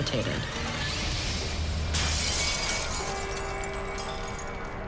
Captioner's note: glass shatters